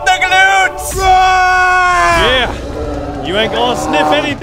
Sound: screaming

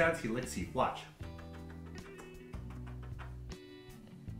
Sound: smooches and kissy sounds

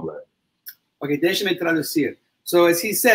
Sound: speaks portuguese

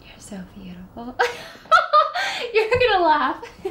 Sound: emma laughs

